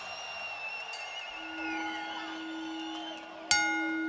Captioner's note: audience cheering; bell tolling